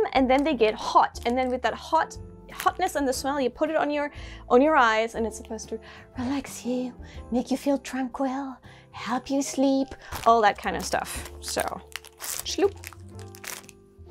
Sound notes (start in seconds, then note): none